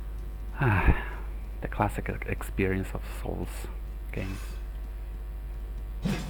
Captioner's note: sighs